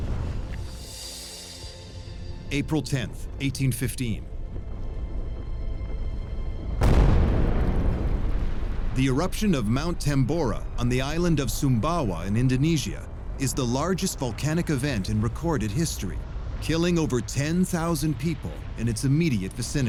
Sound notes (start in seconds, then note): 0.5 tranquil music; 4.3 distant rumble